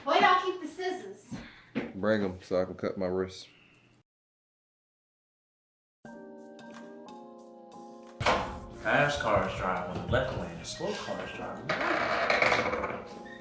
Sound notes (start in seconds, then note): 6.0 upbeat chill-out music; 8.2 door clicks; 13.1 door creaks